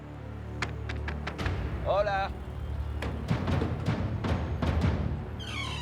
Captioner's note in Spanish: Golpes en la puerta; Chirrido de bisagras